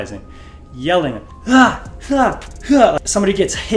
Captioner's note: yelling